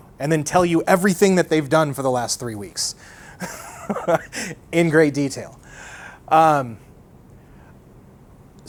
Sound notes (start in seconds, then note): 3.4 laughs